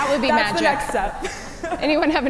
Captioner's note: laughing